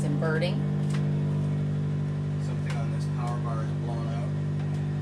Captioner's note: generator noise